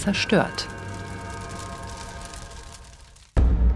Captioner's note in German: Feuerknistern